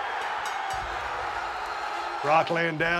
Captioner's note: applause